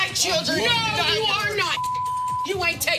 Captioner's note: beep